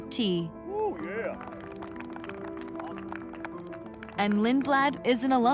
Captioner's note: crowd cheers